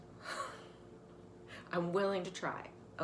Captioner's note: laughs